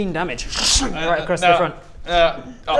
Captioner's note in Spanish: ssschhung